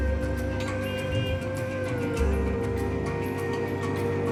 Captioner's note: car Horn Honking